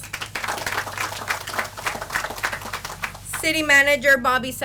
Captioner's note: audience applauds